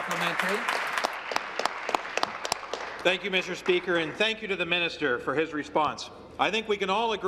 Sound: applause

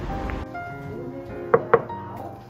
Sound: knock knock

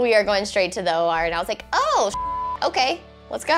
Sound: beep

